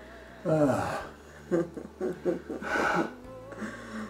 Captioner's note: both laugh